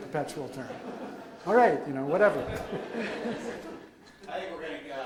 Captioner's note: audience laughs